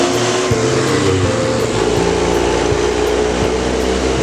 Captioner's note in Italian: Sound scarico